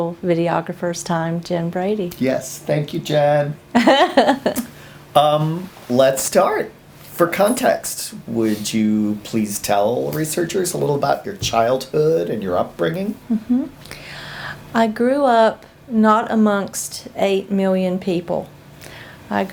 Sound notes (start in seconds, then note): 3.7 laughs